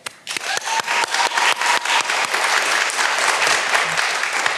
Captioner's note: all applauding